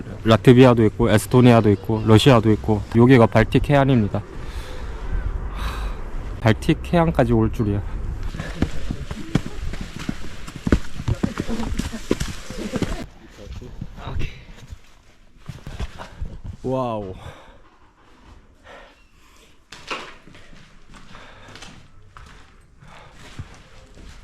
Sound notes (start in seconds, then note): 16.1 quiet